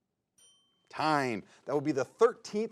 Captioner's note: bell rings